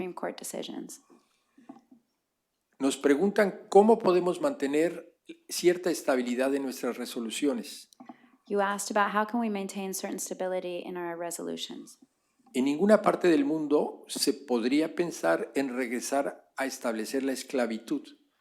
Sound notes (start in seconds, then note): 5.5 speaking spanish; 15.5 speaking spanish